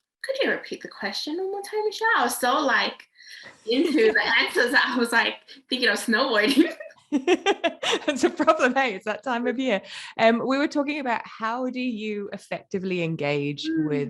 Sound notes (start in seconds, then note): 6.4 laugh